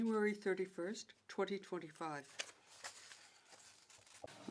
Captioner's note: speaking French